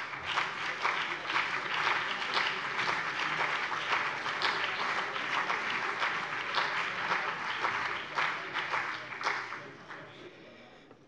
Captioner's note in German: Beifall CDU und BÜNDNIS 90/DIE GRÜNEN